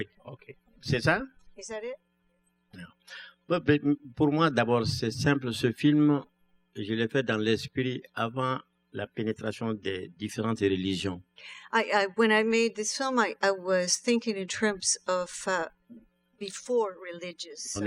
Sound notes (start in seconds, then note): 4.0 speaking french